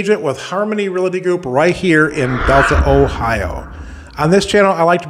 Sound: reverberating whoosh

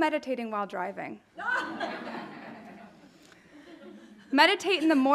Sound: audience laughing

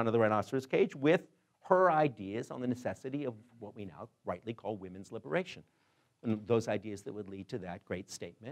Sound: none

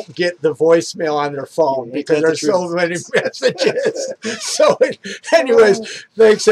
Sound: laughs

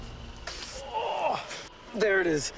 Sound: grunt

